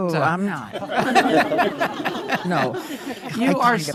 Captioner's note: laughing